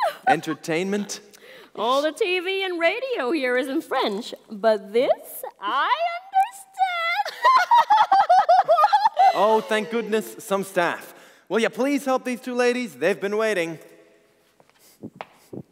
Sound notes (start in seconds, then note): 0.0 laughs; 7.2 Rose and Florence laugh